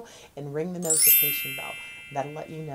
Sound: bells chiming

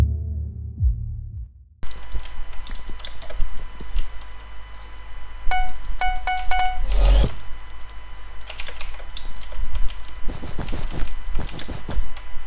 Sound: clicky keyboard and mouse sound!

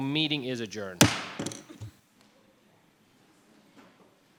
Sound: gavel bangs

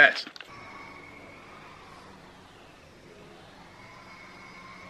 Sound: machine grinding

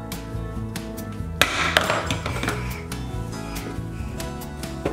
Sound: bowl crashing

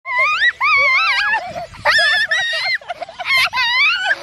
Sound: family laughs

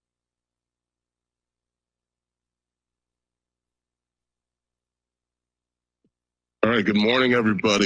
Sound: silence

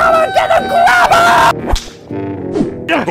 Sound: hand slaps and grabber whooshes

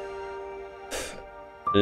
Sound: sighs

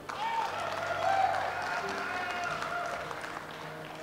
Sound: audience applauds

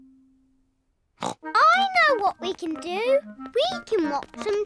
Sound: snorts

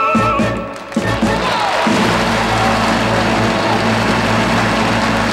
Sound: audience applauding

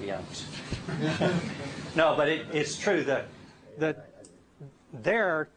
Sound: laughter

